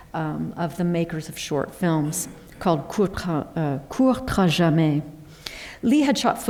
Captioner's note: french